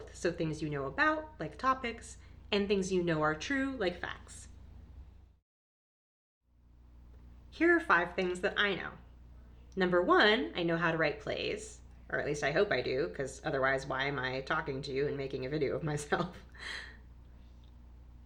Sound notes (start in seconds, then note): 16.1 laughs